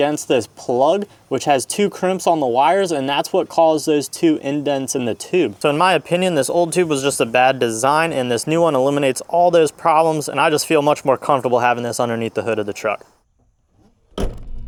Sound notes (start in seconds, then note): 13.9 truck Hood Slams